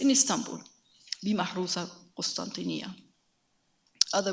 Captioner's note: speaks in a foreign language